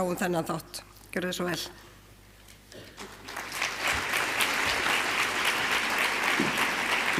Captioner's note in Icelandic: fagnaðarlæti